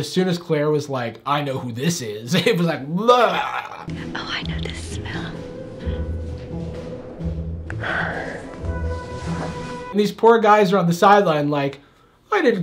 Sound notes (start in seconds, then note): 3.8 whispers; 7.6 exhales